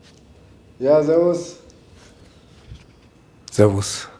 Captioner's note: German